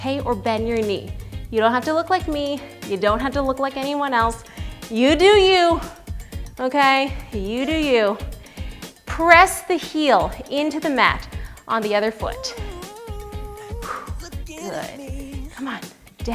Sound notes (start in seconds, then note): none